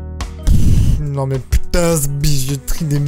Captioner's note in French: pff